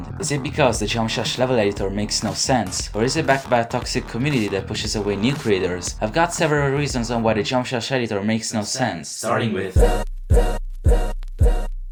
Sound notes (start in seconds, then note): 9.3 doubled voice